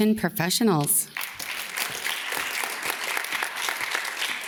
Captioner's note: audience claps